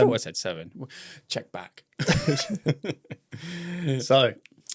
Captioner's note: laughs